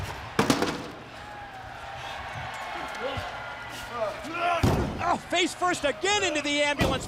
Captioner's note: crowd cheering